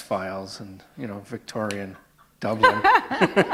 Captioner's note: chuckle